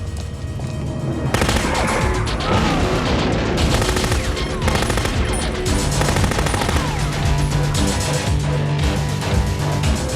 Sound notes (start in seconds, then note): 1.3 machine guns firing; 3.0 grenade explodes; 4.4 machine gun firing